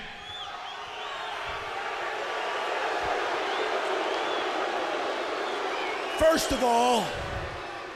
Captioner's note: crowd chatter